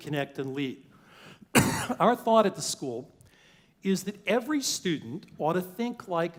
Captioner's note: cough